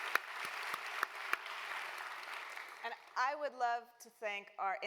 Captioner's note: applause